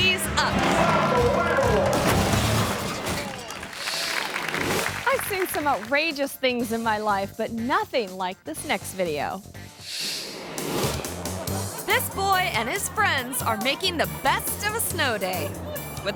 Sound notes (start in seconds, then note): 2.2 car crunches; 4.0 audience applauds; 9.9 screen whooshes